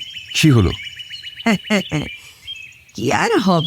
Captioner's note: laughter